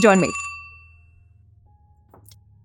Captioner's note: phone rings